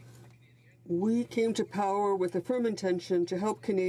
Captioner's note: speaking French